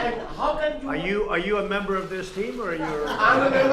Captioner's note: laughter